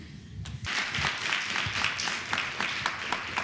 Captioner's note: applause